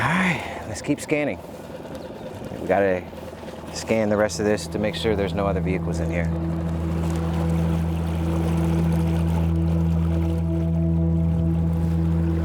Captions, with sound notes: All right, let's keep scanning. We gotta scan the rest of this to make sure there's no other vehicles in here. (suspenseful music) (water splashing)